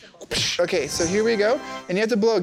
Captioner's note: upbeat music; mimicking explosion